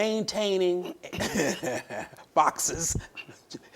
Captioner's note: chuckles